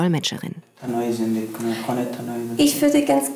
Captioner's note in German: Klient spricht Dari